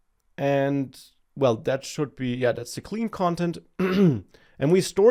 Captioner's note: clears throat